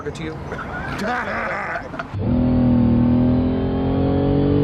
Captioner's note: all laughing